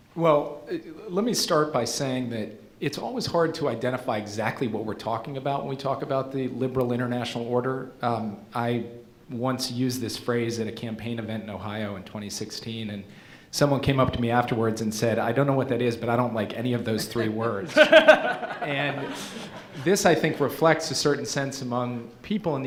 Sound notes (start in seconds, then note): 17.0 laughing